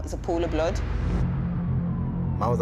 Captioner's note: sirens wailing